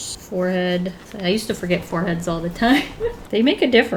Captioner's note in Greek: Γέλια